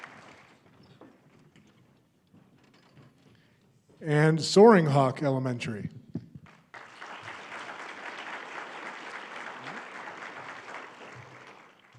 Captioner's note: applause